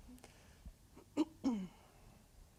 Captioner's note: clears throat